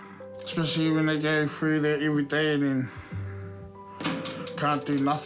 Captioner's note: sighs